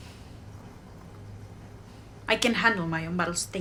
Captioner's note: sighs